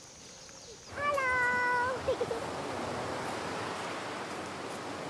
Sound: giggles

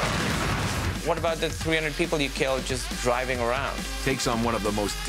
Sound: gunshot

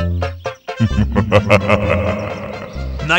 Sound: laughs

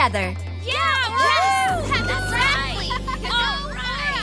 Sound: mermaids cheering

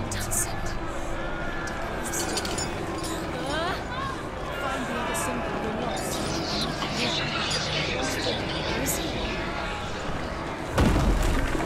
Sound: sounds of commotion; indistinct chatter; thud, crash

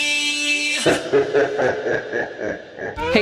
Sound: evil laugh

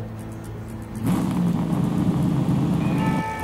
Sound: vroooommmmmm

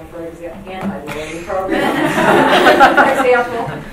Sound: laughter drowns out speaker

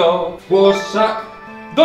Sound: donate sound

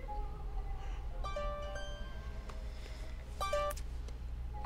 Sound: phone chimes

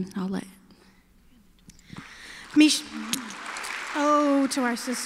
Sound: applause

